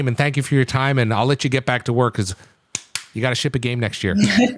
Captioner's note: clapping